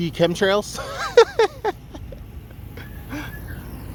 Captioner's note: laughing